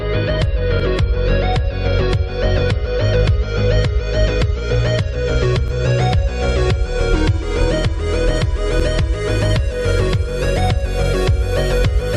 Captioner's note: clap